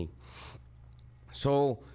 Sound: snuffles

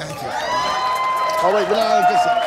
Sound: cheers and applause

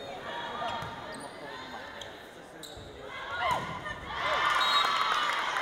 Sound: crowd noise; cheering

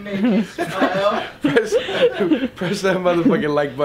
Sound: everyone laughs

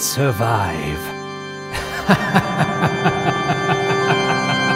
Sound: evil, deranged laughter

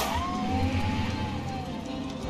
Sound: gunshot; police siren

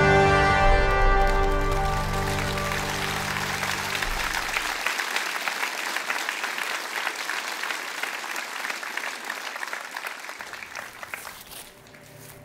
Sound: applause

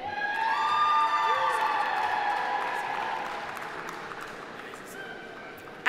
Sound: audience cheering; audience applauding

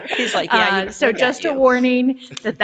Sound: laughs

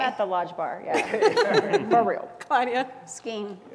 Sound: laugh

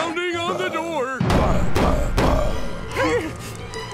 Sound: door pounding

